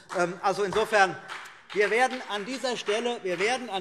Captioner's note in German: Beifall CDU und BÜNDNIS 90/DIE GRÜNEN